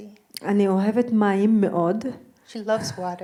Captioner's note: speaking in foreign language